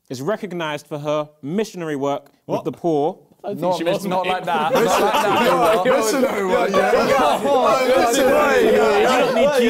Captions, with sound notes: is recognised for her missionary work with the poor- - Not like that. (both laughing) (both mumbling)